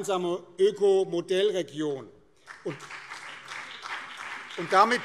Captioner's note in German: Beifall BÜNDNIS 90/DIE GRÜNEN und vereinzelt CDU